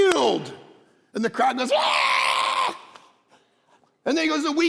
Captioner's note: mimics crowd screaming